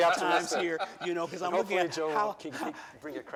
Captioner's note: laughter